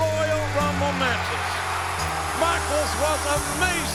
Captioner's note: crowd cheering; upbeat music